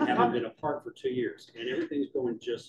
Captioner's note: laughter